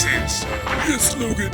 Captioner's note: Black Ice P laughs